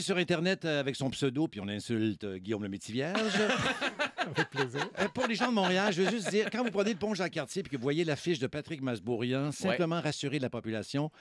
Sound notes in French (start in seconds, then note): 3.1 rires